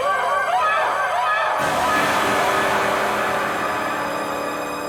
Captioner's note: Cathy screaming